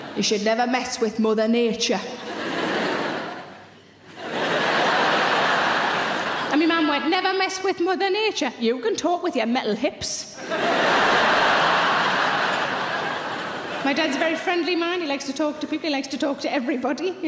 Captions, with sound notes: "You should never mess with Mother Nature." (audience laughs) And me mom went, "Never mess with Mother Nature. You can talk with your metal hips." (audience laughs) My dad's very friendly man. He likes to talk to people, he likes to talk to everybody.